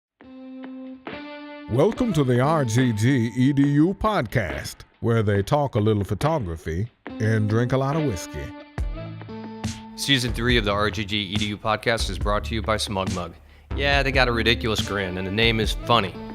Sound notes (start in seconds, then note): 1.2 electronic jazz music; 1.9 voiceover; 10.1 voiceover